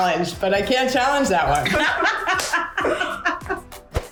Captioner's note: laughs